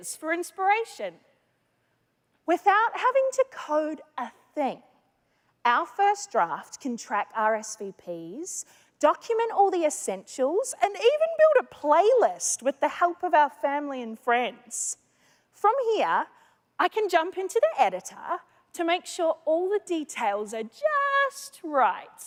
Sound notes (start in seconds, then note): none